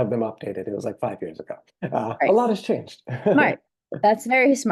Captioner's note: laughs